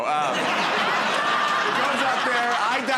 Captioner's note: laughter